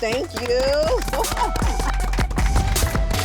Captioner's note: applause